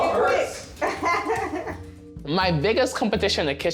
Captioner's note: laughing